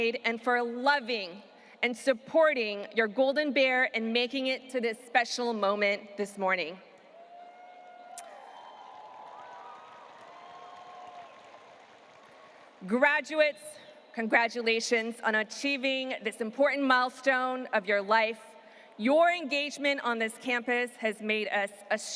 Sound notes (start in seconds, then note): 7.2 audience cheering and applauding